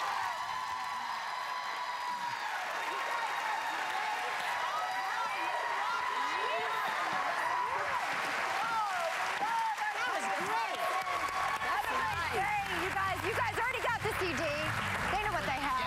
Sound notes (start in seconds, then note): 4.6 cheers and applause